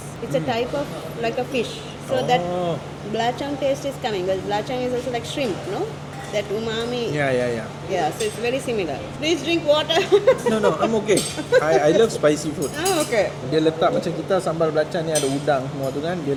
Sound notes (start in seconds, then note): 10.0 laugh